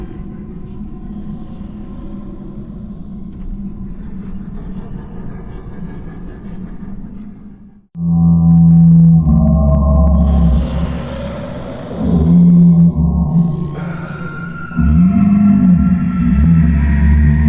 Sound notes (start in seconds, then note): 0.9 growl echoes; 7.9 dark dramatic music; 7.9 growls echo